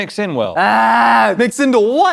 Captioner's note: groans loudly